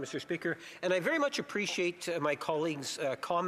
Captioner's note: speaking French